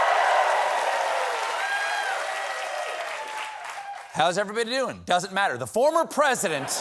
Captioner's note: applause